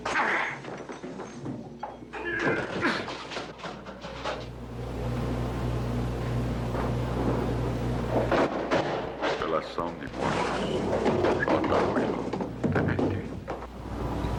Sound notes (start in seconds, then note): 8.1 objects Crashing